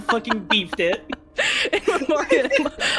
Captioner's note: laughing